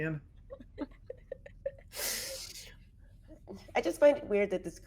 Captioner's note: everyone laughs